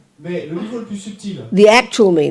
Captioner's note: French